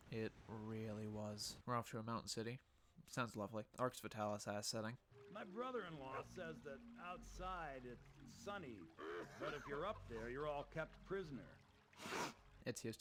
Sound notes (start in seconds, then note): 9.0 loud cough; 12.0 big sniff